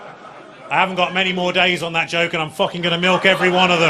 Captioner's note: audience laughing